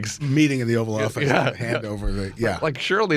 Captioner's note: laughs